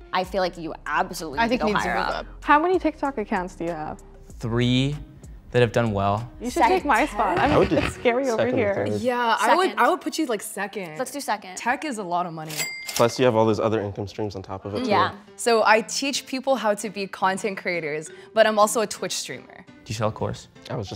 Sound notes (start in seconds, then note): 12.6 cha-Ching